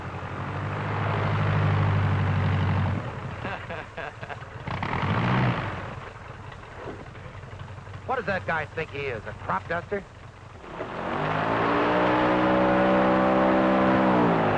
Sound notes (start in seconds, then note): 0.9 loud whirring; 3.4 laughing; 10.5 loud whirring